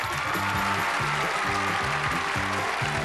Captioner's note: applause